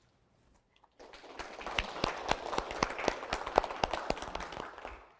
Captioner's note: audience applauding